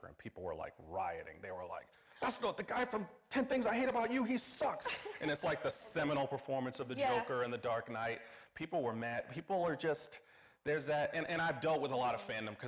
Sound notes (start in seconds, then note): 4.6 laughing